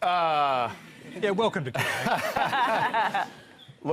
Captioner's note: laughter